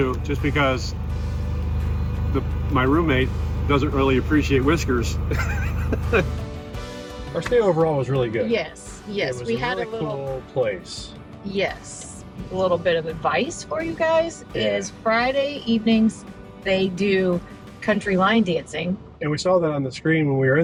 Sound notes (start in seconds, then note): 5.0 upbeat music; 5.2 laughing